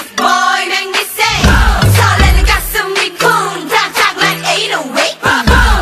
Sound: boom

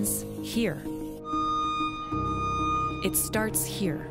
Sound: engine whistling

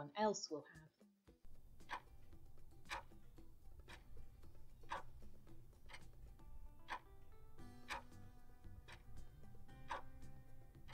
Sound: clock ticking

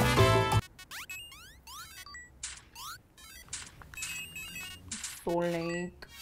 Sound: tiki tiki video game noises

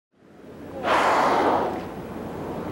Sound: whale spout blows

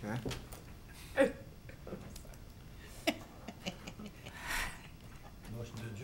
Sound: laughing

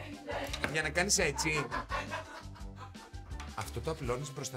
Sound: laughs

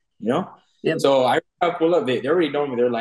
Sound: audio breaks

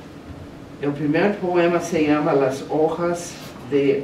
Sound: speaking spanish

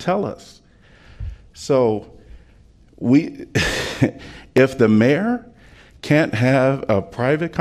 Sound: laughter

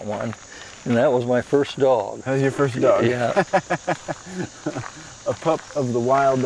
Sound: laughs

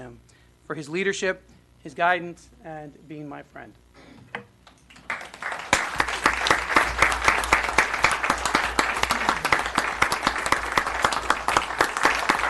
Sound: applause

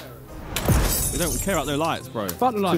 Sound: glass shattering

